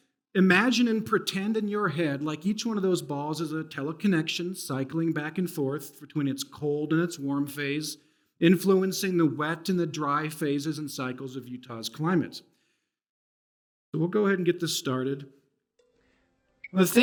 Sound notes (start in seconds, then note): none